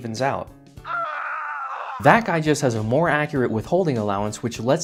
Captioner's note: death scream